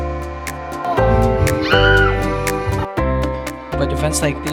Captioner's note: shrieks in excitement